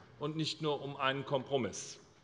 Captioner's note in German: none